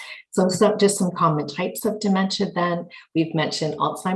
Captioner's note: murmurs